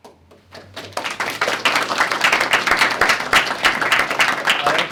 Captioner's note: applause